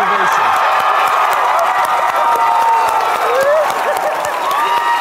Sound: people cheering loudly

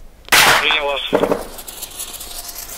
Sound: radio exchange

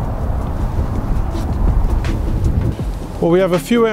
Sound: wind gusts

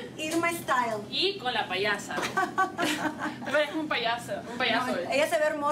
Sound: Risas

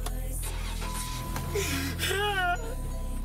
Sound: car engine starts; car beeping

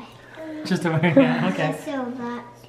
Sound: chuckling

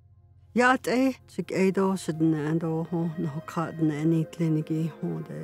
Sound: speaking in foreign language

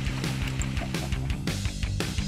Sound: chuckling

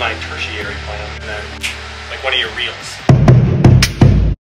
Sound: snap

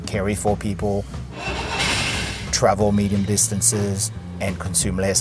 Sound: car engine cranking

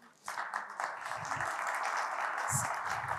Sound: applause

